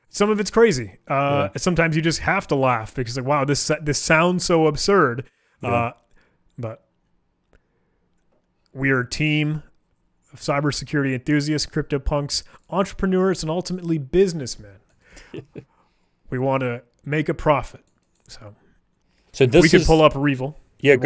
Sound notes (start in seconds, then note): 15.2 laughing